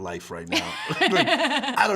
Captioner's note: both laughing